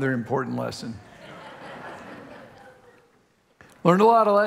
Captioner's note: congregation laughing